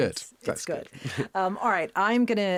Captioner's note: Josh laughing